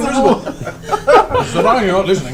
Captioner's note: all laugh